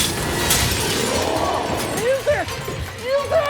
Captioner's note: glass shatters